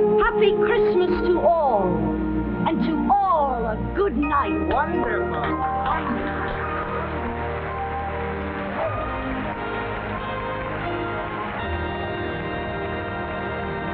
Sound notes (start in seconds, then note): 6.1 audience applauding; 7.0 gentle music